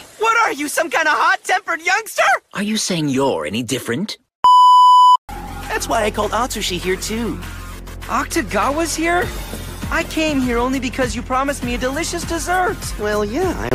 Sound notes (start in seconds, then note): 4.4 static beep sound